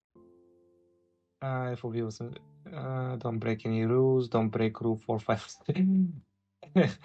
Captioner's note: mumbled reading